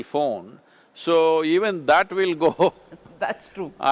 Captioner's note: laughs